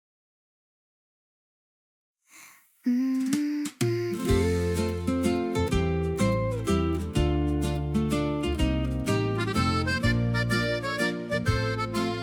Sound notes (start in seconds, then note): 2.3 snort